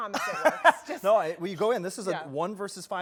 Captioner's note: laughs